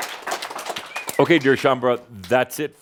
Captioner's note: more audience cheering and applause